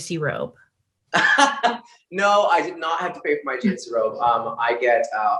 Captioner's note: laughs